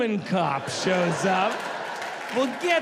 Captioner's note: audience laughs